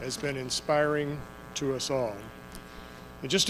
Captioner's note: none